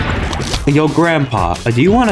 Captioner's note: something in Spanish